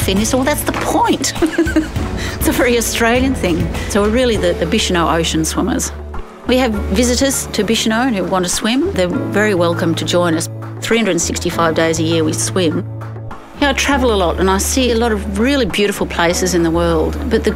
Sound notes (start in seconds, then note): 1.2 laughs